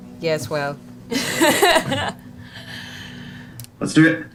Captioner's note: laughs